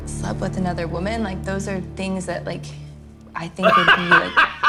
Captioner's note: laughing